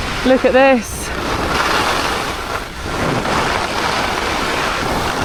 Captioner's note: skis scrape